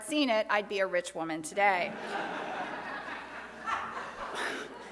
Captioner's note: crowd laughs